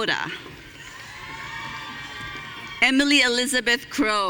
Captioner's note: audience cheering